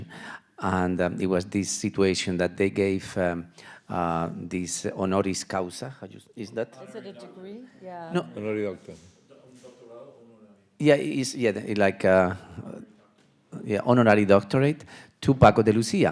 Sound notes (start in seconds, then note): 9.5 man speaking in Spanish